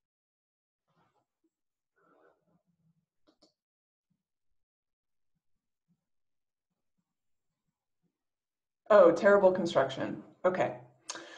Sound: silence

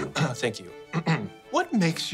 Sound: coughs

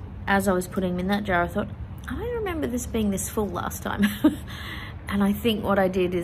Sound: laughs

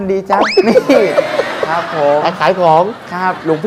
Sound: laughing sound

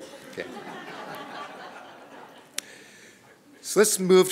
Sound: laughter

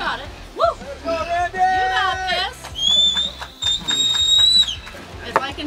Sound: cheering

